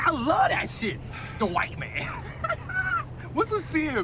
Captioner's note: laughs